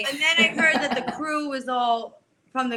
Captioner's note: laughs